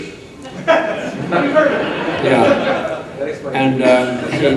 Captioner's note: audience chuckles